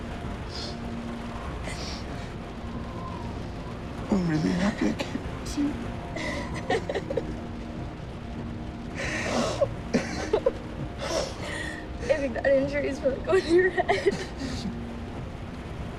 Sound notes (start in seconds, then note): 6.2 laughs